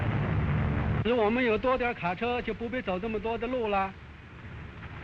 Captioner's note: man speaking Chinese